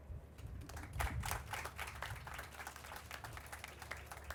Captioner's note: crowd applauding